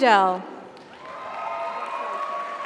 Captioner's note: audience applauds; audience cheers